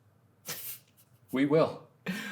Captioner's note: Ryan laughing